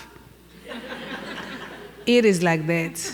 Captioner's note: laughing